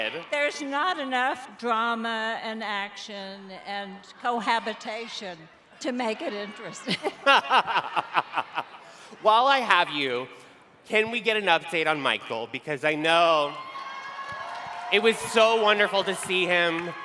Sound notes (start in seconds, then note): 6.0 laughing